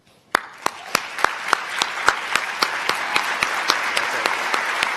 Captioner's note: applause